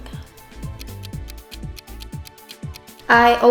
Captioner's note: clock ticking